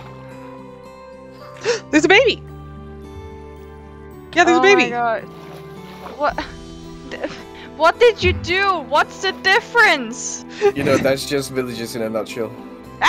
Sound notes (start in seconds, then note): 7.0 mira stammers; 12.9 mira screams